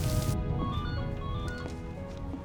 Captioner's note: phone rings